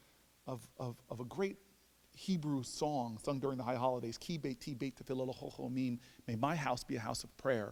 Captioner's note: speaking Hebrew